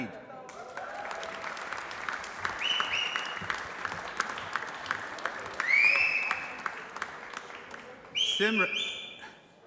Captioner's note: applause